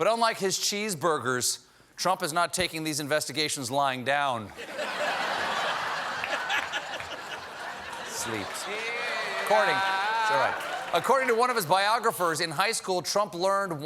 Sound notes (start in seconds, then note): 4.5 laughter